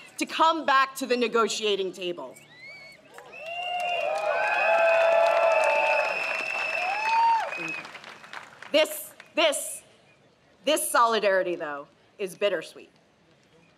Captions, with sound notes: to come back to the negotiating table. (crowd cheers) This solidarity, though, is bittersweet.